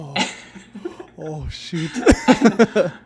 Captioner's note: laughing; laughs